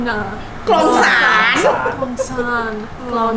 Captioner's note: laughs